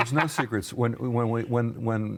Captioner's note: laughing